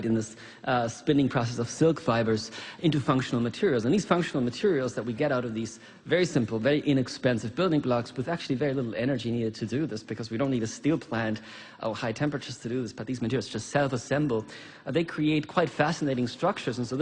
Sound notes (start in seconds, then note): none